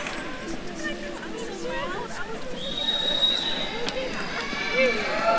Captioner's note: attendees cheering and applauding; attendees chattering